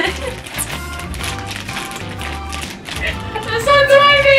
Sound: laughing

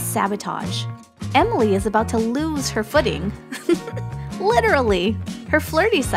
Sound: chuckle

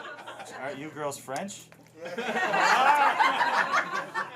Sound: laughter

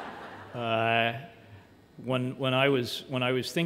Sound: laughter

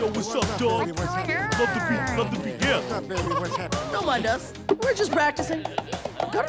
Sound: chattering

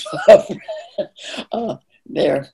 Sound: laughing

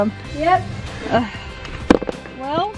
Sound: mom gasps

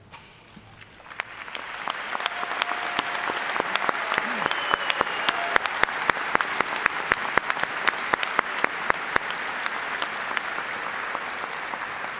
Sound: applause

